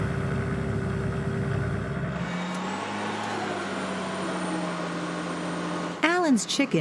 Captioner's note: tractor sounds